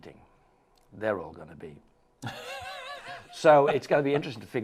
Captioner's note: laughing